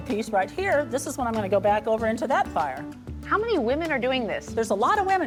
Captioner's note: none